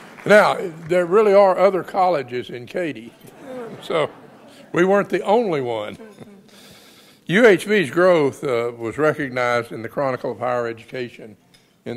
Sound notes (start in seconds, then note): 0.0 audience applauds and laughs; 3.0 audience laughs